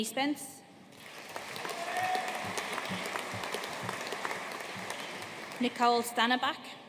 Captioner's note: audience cheering and applauding